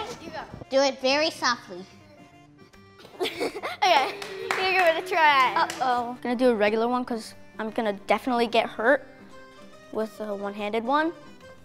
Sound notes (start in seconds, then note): 3.0 laughter